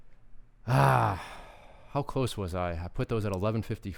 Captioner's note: sighing